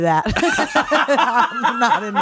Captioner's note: laughing